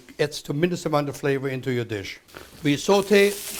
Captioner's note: sizzling